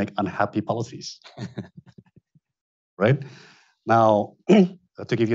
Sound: chuckles

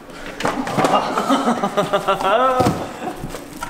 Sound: chuckles

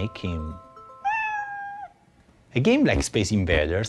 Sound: meow

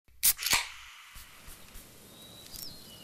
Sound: pop top can opening; birds chirping

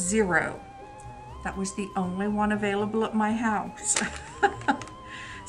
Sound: laughs

